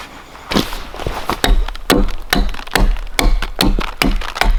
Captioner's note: adze thudding